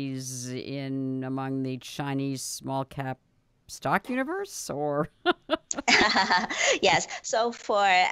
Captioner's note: laughter